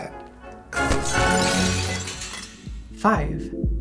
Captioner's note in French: bruits de verre brisé